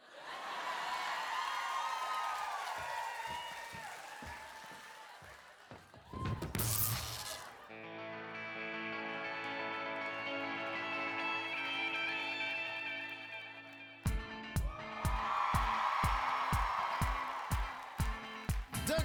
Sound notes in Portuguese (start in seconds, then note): 0.0 audience laughing; 6.5 electrical crackling; 8.0 energetic music; 14.5 audience cheering and applauding